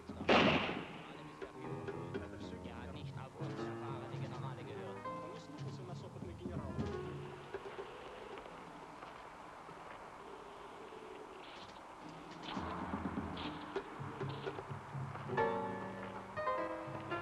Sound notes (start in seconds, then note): 0.2 gunshot; 0.2 men speaking in German; 9.0 suspenseful music; 9.0 wind howling